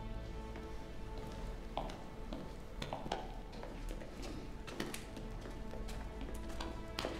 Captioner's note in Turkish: Ayak sesi